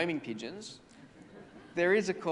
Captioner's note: audience laughs